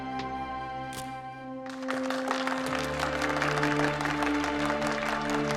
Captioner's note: audience applauds